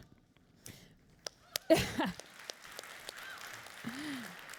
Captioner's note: applauding